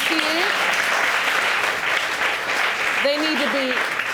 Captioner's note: audience applauding